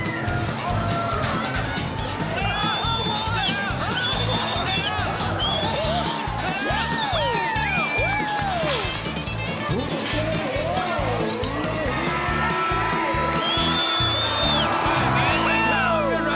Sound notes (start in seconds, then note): 3.1 crowd cheering, whistling; 8.0 crowd applauding; 14.0 crowd cheering, whistling